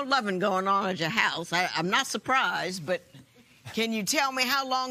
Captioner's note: none